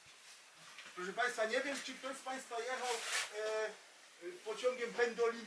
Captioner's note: speaking in foreign language